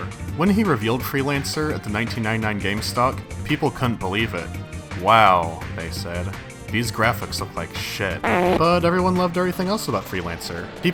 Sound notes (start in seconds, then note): 8.2 fart noise